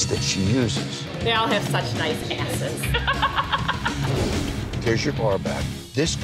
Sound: laughs

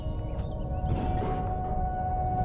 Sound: clattering

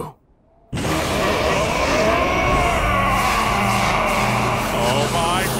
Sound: yelling

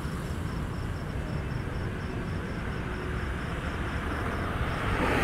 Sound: traffic driving

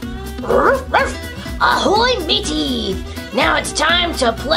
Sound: Hook cackles; barks

